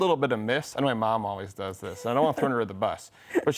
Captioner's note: laughs